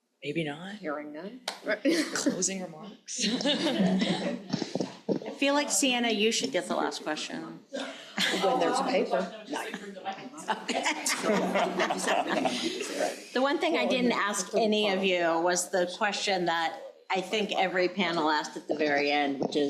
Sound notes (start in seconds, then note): 3.2 crowd laughing; 9.9 faintly speaking; 10.4 crowd laughing